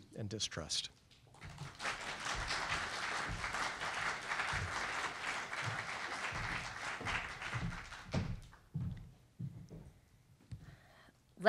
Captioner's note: applause